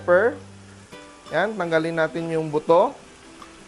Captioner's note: sizzle